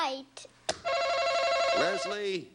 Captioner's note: buzzer buzzes